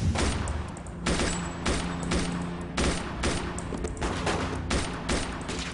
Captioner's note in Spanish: Disparos